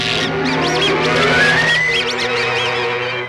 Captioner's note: electricity zaps; mice squeaking; dramatic music